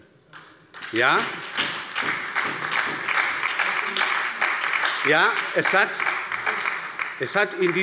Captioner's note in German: Beifall bei der SPD